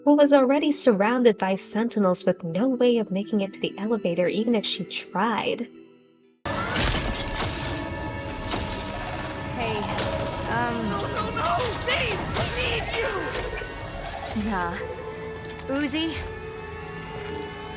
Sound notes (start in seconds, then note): 6.6 rip V's glasses getting crushed sound; 8.9 sentinel growling noises